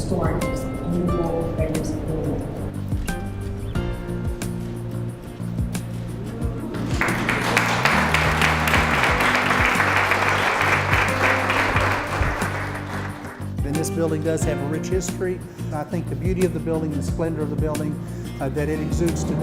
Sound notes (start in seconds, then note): 5.9 crowd oohs; 6.7 clapping